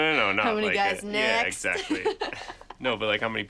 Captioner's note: laughs